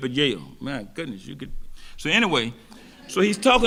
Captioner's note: audience laughing